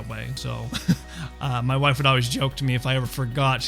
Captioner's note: chuckles